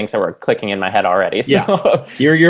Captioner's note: laughing